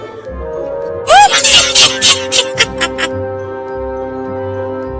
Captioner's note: Evil Fairy laughs